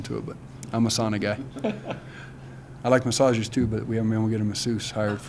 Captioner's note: laughs